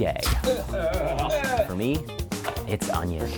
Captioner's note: retching